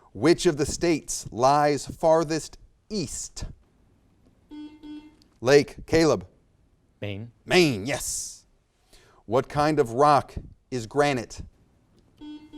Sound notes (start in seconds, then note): 4.5 buzzer beeps